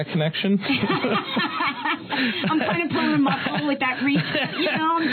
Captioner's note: laughter